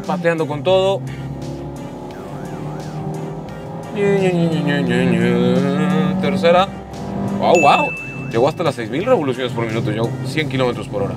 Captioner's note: engine revving